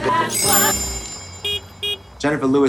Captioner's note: beeps; car beeps